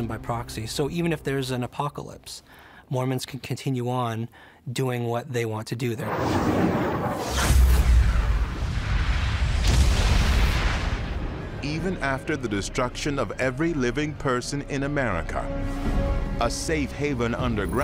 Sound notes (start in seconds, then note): 6.0 explosions